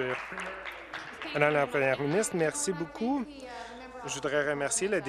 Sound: applause

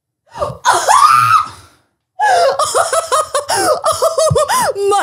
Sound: laughs

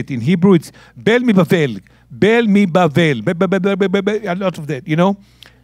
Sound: speaking in Hebrew

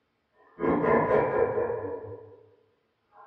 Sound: laughing again

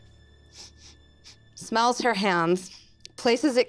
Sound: sniffing

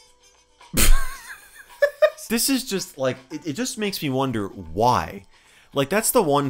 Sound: laughing

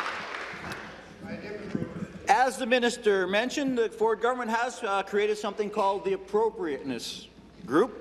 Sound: applause

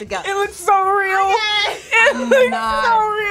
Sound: laughs

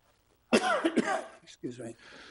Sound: coughs

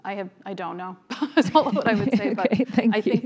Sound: laughing

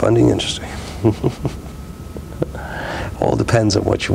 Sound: chuckles

